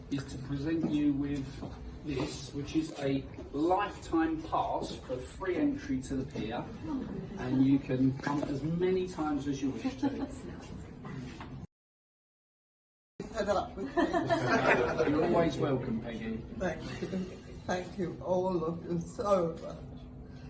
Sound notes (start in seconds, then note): 13.8 laughter